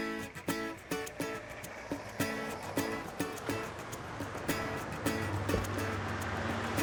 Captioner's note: engine rumbling; upbeat music